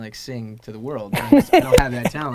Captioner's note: Gary lughs